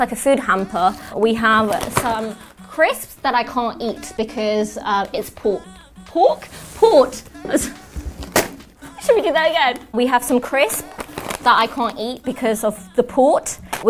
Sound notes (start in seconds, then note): 8.8 laughs